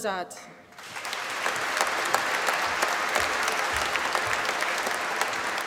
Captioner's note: applause